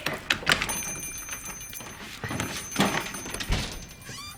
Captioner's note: bell rings